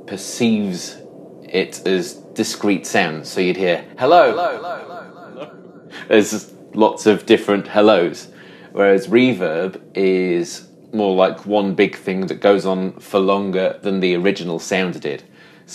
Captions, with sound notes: perceives it as discrete sounds, so you'd hear "Hello!" (hello echoes) (laughs) as lots of different hello's, whereas reverb is more like one big thing that goes on for longer than the original sound did.